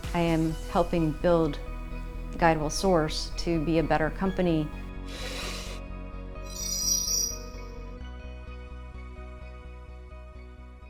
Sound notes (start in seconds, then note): 4.9 bright inspirational music; 4.9 tones chiming